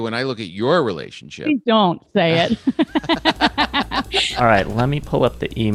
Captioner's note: all laughing